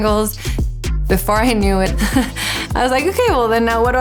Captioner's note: laughs